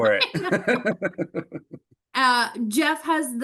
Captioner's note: both laughs